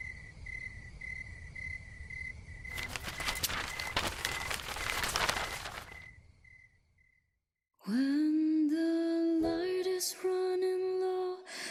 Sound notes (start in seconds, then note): 2.7 papers Crinkling and Flying